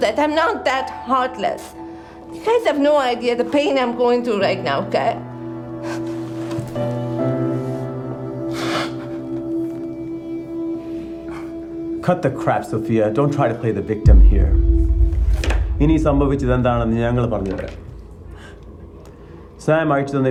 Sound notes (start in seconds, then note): 6.2 Sofia crying; 6.2 somber music